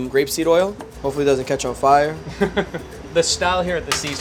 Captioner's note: laughs